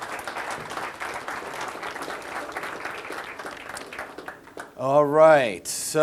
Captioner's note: audience applause